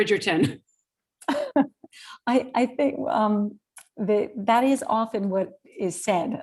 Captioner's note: chuckles